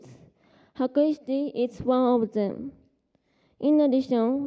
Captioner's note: japanese